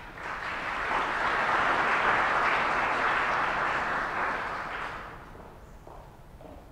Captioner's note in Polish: oklaski